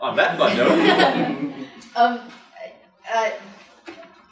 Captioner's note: laughing